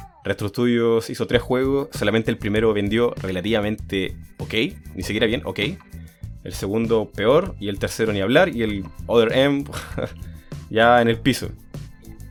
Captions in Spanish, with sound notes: Retro Studios hizo 3 juegos, solamente el primero vendió relativamente OK, ni siquiera bien, OK el segundo, peor; y el tercero, ni hablar; y el Other M... (risas) ya en el piso